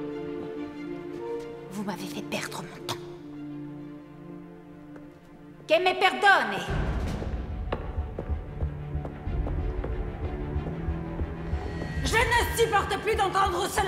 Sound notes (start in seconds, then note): 6.0 Elizabeth speaks in a foreign language; 8.0 dramatic music